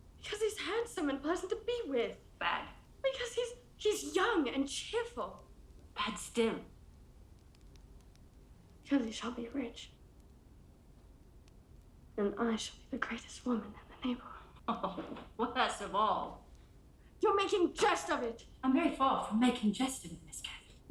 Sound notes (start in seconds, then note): 15.2 laughs